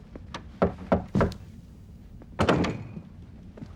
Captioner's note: knock at door